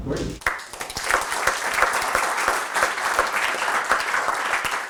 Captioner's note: audience applauds